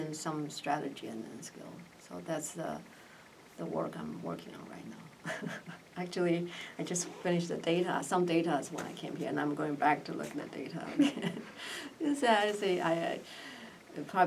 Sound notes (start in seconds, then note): 5.2 laughs; 10.9 laugh